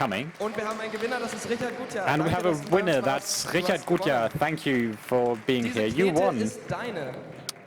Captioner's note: applause